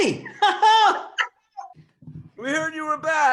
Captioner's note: laughs